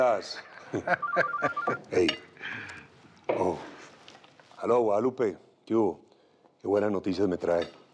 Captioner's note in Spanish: Risas; Suena el teléfono